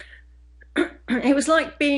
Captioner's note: clearing throat